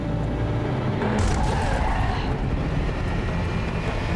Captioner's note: cars banging